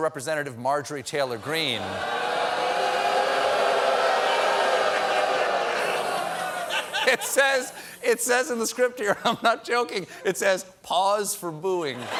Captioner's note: crowd boos